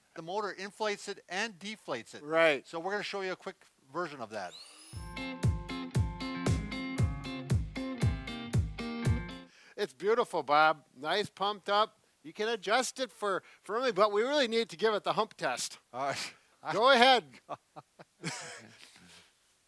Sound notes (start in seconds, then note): 4.4 motor whirs; 5.0 drum beats